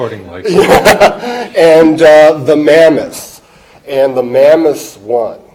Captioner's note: laughing